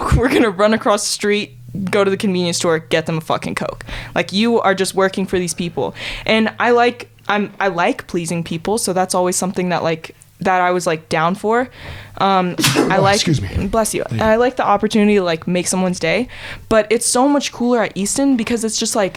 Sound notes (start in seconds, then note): 12.6 sneezes